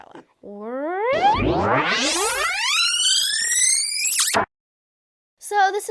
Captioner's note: retro tape rewind noises; makes rewind noises